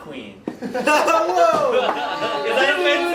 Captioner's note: laughing